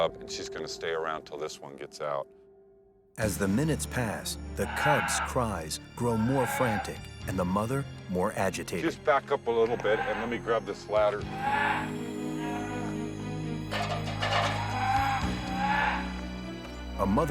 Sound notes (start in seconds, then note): 11.2 bear yelping; 11.5 tense music; 13.8 ladder clattering